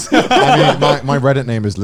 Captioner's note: laughing